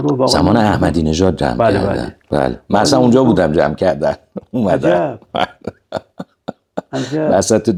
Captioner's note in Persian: خنده